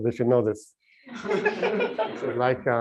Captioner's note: laughter